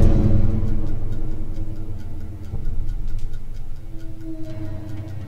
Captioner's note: timer ticking